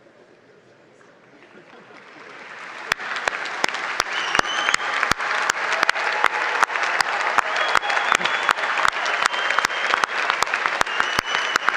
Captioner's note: applause